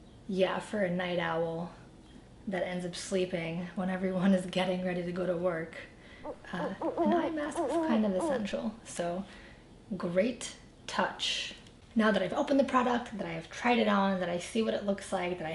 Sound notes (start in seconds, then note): 6.2 owl hooting